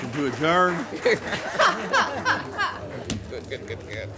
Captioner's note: laughs